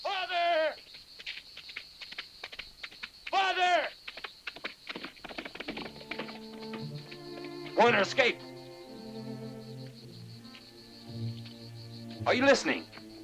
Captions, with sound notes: Father! Father! (hooves thudding) (somber music) Warner escaped. Are you listening?